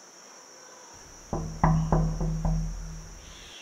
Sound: door knocking sound

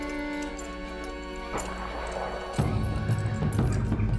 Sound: distant gun shot

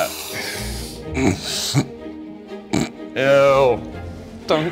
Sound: sniffing deeply; grunts

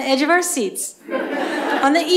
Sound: laughter

